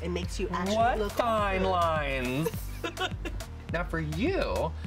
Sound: make up artist chuckles

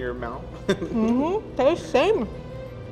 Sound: laughs

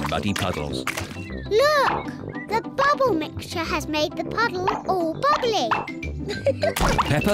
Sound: laughs

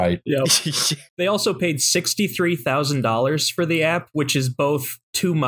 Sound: laughter

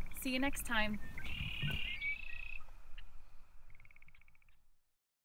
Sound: nature sounds; bird call

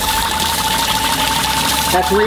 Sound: water splashing

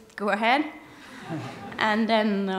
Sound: laughter

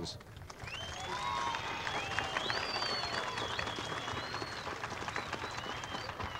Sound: crowd cheering and applauding

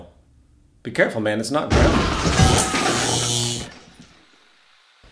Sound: explosion; Bob screaming

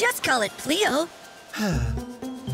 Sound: sigh

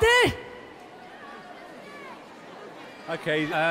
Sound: audience muttering

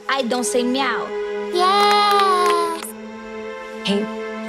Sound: claps

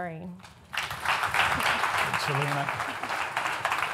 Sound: audience applauds

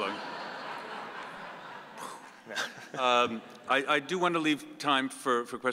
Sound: audience laughing

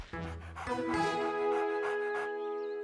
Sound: panting

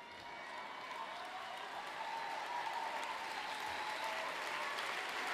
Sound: applause

